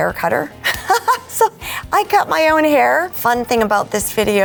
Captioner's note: laughing